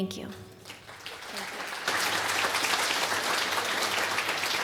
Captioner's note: applause